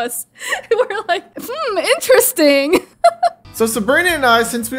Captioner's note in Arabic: يضحك